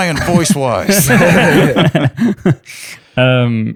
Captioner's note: laughter